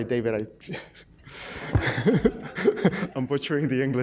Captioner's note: laughter